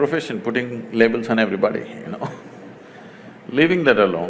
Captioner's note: laughs